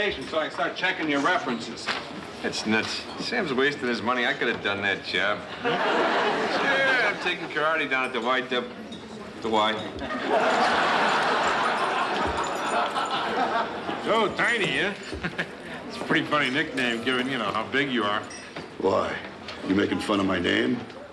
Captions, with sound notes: so I can start checking your references. That's nuts. Sam's wasting his money. I could have done that job. Sure, I'm taking karate down at the YW... The "Y." (chains jingling) So, Tiny, huh? (chuckles) That's a pretty funny nickname given, you know, how big you are. Why? You making fun of my name?